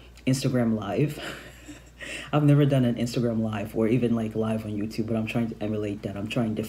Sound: chuckles

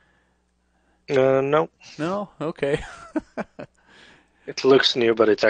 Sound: laughs

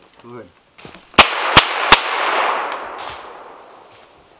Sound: pistol firing

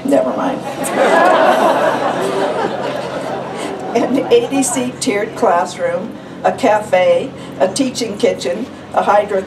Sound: laughter

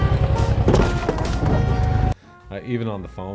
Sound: car crashing

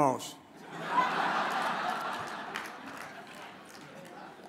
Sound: audience laughs

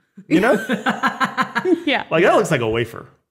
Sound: laughing

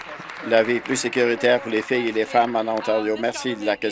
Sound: applause

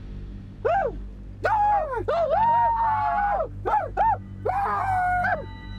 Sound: war cries

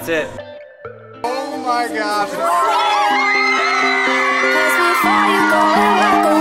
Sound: screaming; pop music

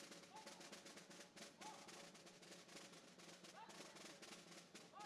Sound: light drumming music; color guard captain shouting

